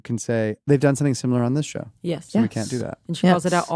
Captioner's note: others agreeing